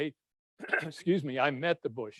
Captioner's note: clears throat